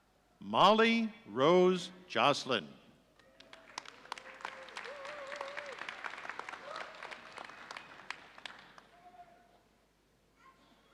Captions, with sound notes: Mollye Rose Joslyn. (audience applauding)